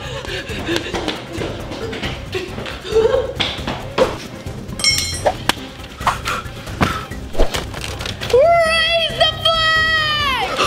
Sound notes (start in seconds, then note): 0.2 dramatic music; 4.8 clang; 5.9 huffs